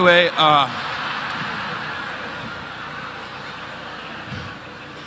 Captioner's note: audience laughing